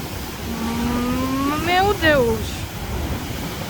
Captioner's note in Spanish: En portugués